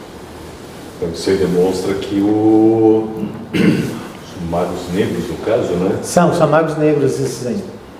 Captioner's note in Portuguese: limpando a garganta